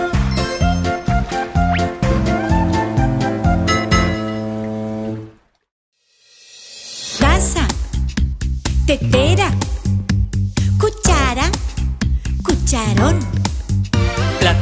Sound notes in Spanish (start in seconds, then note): 0.0 Música alegre; 2.0 Bocina de barco